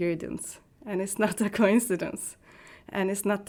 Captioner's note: laughing